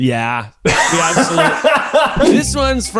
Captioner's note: both laughing